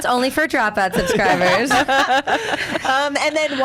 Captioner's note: laughs